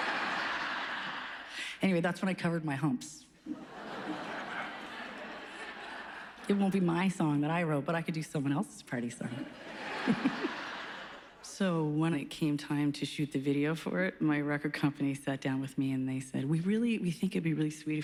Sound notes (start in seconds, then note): 0.0 laughter; 3.4 laughs; 9.6 laughs; 9.7 chuckles